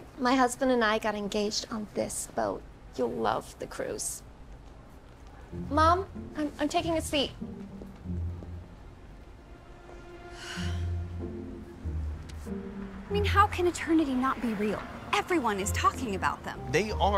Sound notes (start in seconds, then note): 10.2 sighs; 11.5 whimsical music